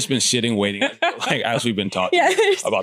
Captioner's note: laughs